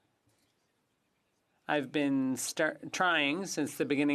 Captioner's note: speaking French